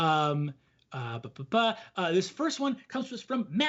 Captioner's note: blabs melodically